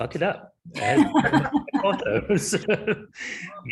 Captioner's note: chuckling